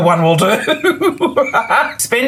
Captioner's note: laughs